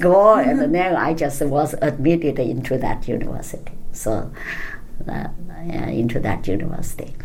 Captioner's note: laughs